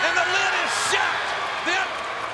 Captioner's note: audience cheers